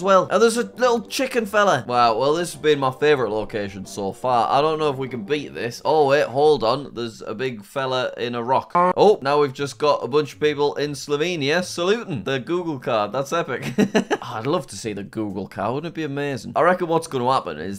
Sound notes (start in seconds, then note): 6.4 record scratches; 13.6 laughs